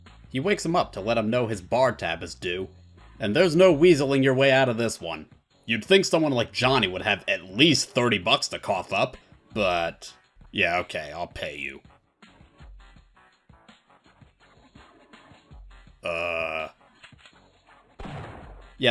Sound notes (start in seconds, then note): 10.5 tough guy voice; 16.0 tough guy voice; 18.0 blam